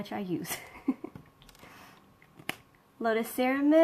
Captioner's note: laughs